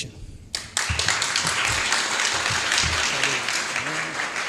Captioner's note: applause